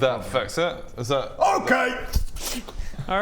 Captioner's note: pffsshtscth